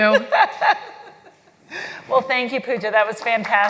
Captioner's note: laugh